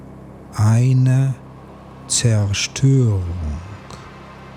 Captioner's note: german